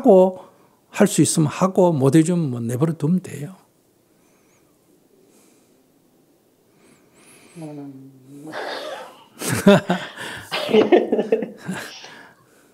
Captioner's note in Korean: 질문자와 스님 웃음